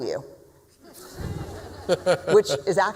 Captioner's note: laughter